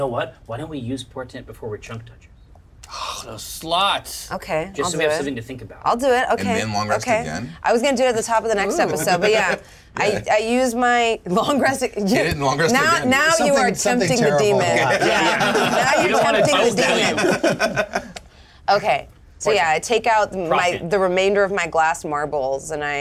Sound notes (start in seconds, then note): 17.2 laughs